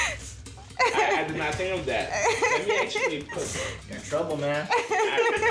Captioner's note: laughing